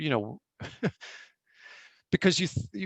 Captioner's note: laughing